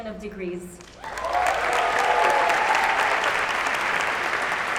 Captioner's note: applause, cheers